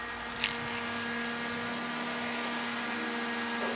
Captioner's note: föhn noises